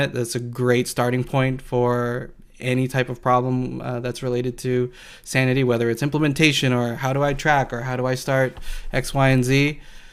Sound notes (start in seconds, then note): none